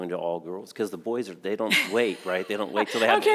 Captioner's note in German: lacht